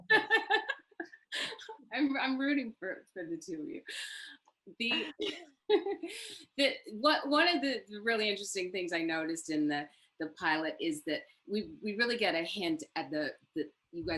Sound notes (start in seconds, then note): 0.0 laughs; 5.4 laughs